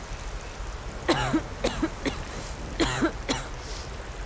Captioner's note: Aloy coughing